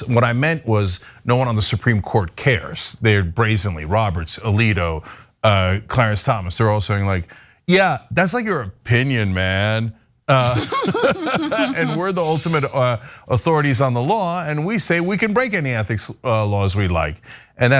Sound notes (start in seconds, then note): 10.4 laugh